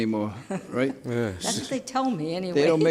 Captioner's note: laughs